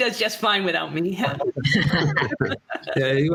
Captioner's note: laughter